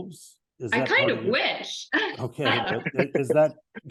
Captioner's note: laughs